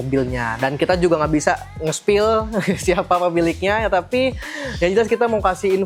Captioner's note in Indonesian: tertawa